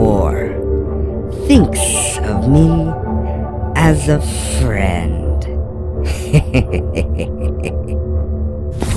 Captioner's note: laughs